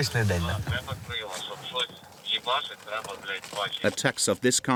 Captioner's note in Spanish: Audio hablado en ucraniano